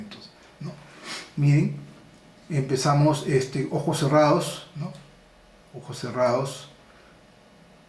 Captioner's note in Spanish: resoplido